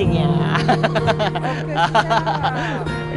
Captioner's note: laughs